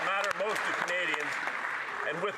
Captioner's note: some Applause